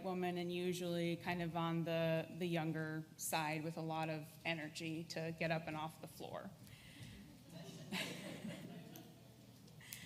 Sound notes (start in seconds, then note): 7.5 laughs